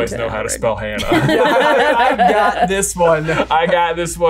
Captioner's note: laughs